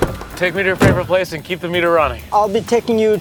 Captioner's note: door thuds